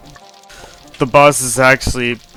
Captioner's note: breathes in